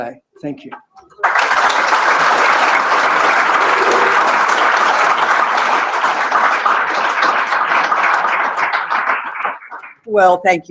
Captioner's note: applause